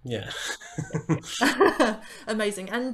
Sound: laughter

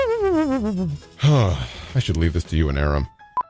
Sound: sigh

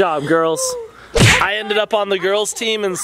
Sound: banging

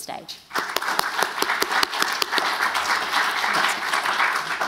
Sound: applause

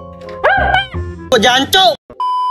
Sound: cursing

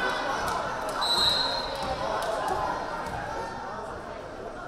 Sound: whistle blaring

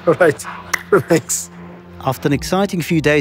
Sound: hands clap

